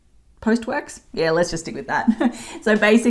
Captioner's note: laughs